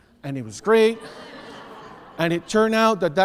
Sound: audience laughs

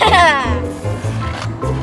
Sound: giggles

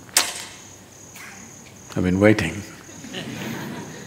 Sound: few laugh

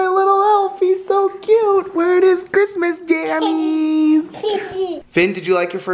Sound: laughs

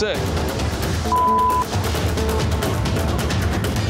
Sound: beep

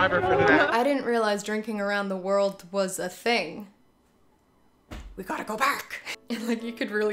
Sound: Doc Brown voice

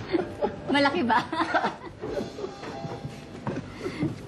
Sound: Fidel laughs

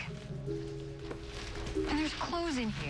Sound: plastic rustles

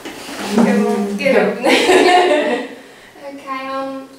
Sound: laugh

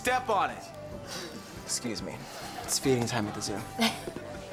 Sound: sighs

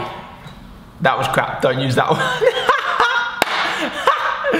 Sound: laughs

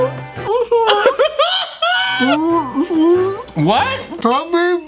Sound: laughs

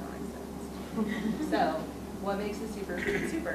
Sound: audience laughs

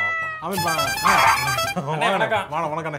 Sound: honking sound

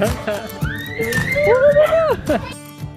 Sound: scream

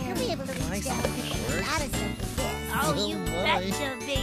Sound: busily Chattering

